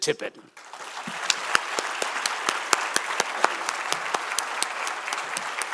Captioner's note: applause